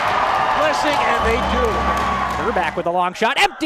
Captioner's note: crowd cheers